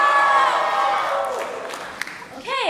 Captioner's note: cheering; applause